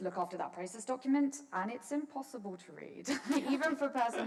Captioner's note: laughs